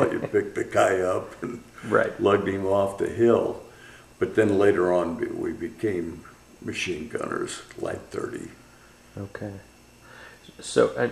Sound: laughs

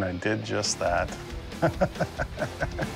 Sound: laughs

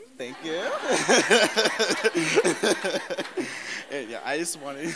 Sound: laughter

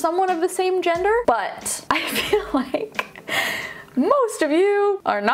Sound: laughing

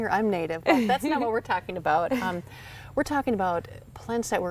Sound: laughs

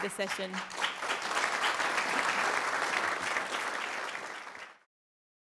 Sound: applause

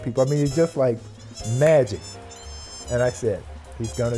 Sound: crowd

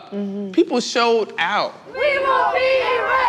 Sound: chanting

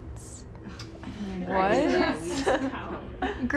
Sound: sorority sisters laugh

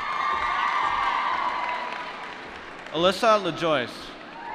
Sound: applause

